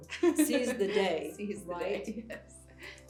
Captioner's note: laughs